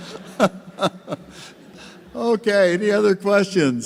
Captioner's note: laughter